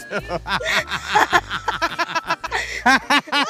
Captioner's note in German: Sie lachen laut